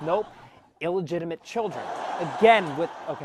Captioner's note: laugh track